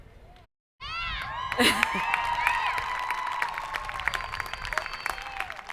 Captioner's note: audience applauding